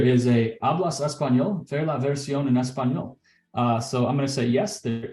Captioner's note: speaking in Spanish